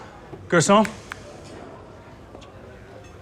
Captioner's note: snapping fingers